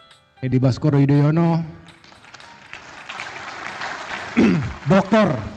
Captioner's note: applause